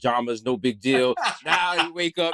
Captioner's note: laughing